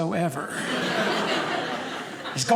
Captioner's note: audience laughing